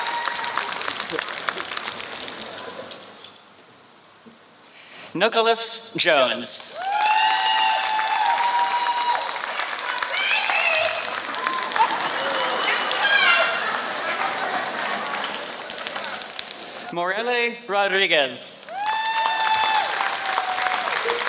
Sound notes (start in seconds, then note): 0.0 applause; 6.1 applause; 13.4 laughter; 15.1 applause; 21.1 applause